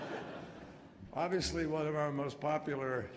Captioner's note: laughter